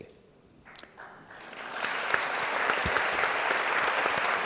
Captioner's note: applause